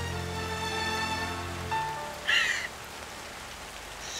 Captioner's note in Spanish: Llora